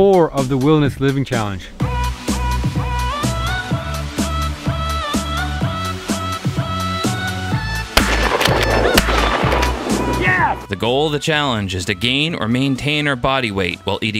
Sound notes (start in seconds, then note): 1.9 upbeat music; 8.0 gun blasting